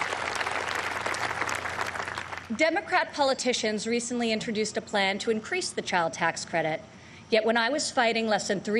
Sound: applause

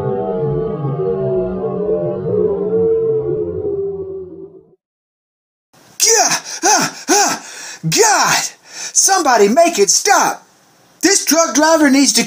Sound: yelling, Panic

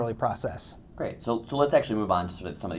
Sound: voiceover

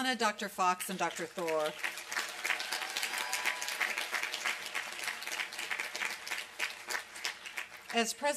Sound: applause and cheering

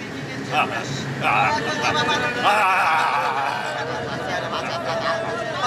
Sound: cacophony of shouts, groans & shouting

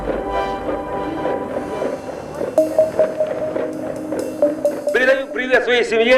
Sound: knock of helmets

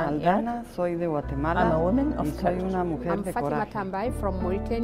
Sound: multiple women's voices; multiple women's voices

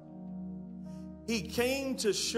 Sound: congregation muttering in agreement

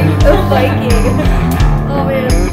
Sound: laughter

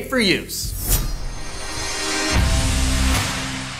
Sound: blade slicing; upbeat music

